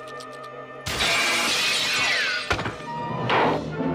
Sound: glass breaking

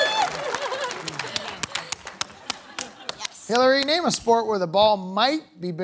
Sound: cheering/applause

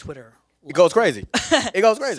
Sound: laughs

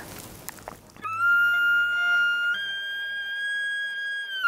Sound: bugling

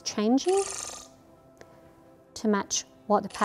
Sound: electronic camera whooshing

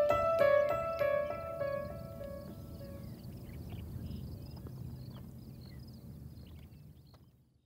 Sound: birds chirping wind rustling

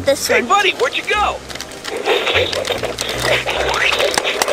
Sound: fighting sounds

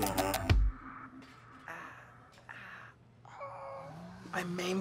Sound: moaning in pain

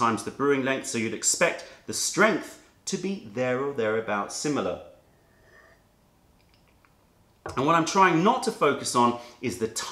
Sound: sips tea

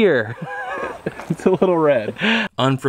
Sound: laughs

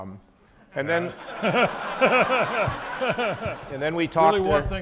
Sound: audience laughs

